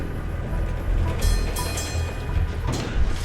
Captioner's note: door dings